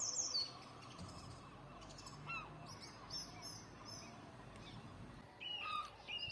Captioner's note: more chirruping